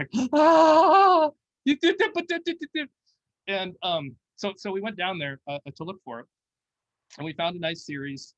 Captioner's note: mumbles